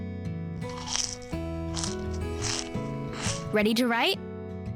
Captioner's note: nachos crunching